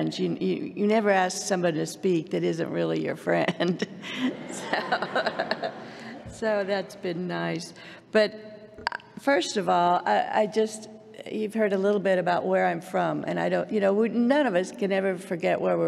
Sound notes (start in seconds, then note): 3.9 laughter